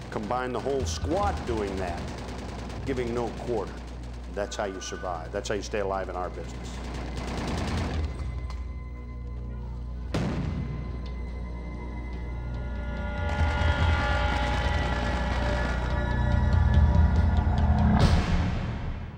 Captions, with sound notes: Combine the whole squad doing that, giving no quarter. That's how you survive, that's how you stay alive in our business. (rapid gunfire) (explosion) (ominous instrumental music)